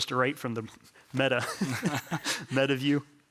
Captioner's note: all laughing